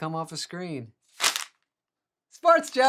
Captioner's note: paper crumping